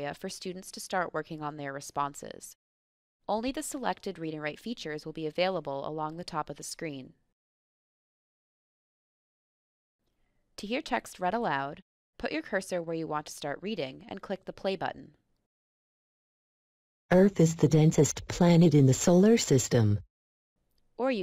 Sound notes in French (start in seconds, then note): 16.3 Voix D'ordinateur